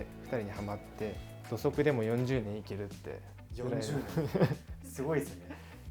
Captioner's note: laughter